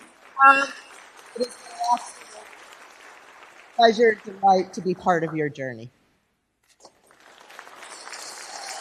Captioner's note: applause